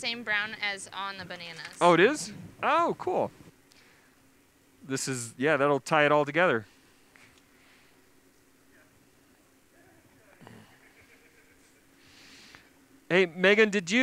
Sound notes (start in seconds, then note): 7.9 pause; 10.4 inhales